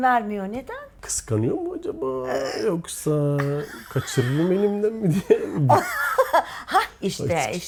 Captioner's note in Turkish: kahkaha